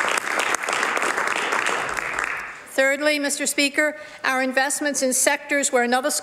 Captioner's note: some Applause